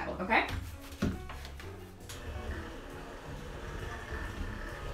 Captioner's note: mixer whirs